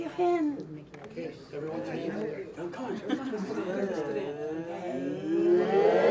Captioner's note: group chattering